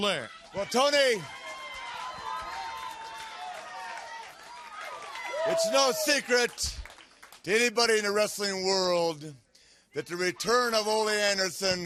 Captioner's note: crowd cheering